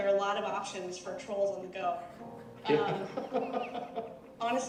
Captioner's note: laughing